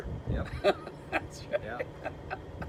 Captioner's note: laughter